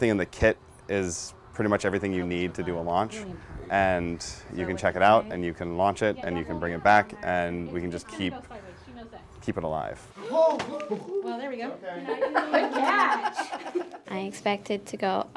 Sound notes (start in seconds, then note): 12.0 laughter